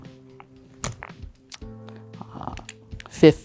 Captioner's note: tokens clattering